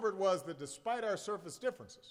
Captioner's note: none